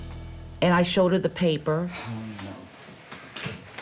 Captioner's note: sighs